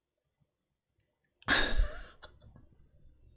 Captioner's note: laughs